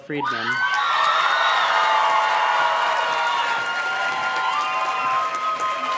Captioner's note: audience cheers and claps